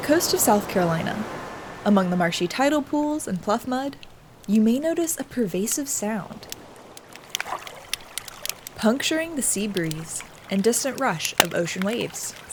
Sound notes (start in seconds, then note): 6.8 snapping and crackling